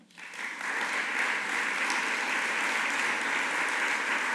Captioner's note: audience applauding